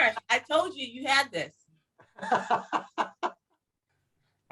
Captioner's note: laughing